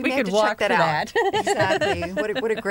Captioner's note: laughter